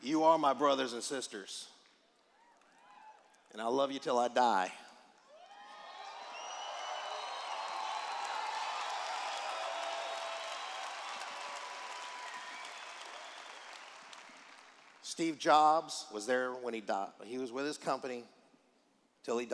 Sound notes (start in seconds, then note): 9.8 cheers